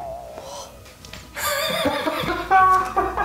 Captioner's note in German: Comicgeräusch; Er lacht